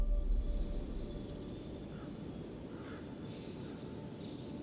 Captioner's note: birds chirping